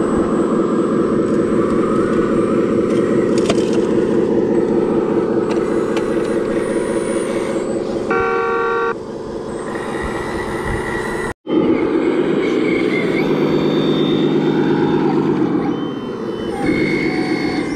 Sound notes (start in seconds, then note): 8.0 honking; 11.8 engine roaring